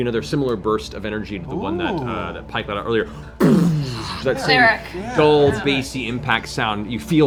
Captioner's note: explosion